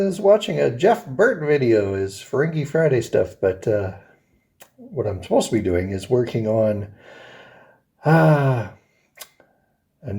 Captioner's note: sighs